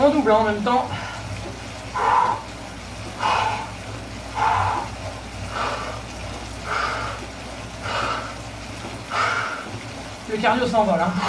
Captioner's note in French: soufflements